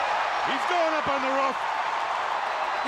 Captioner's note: crowd cheering